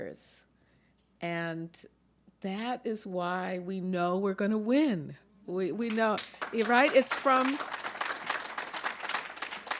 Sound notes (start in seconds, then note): 5.8 applause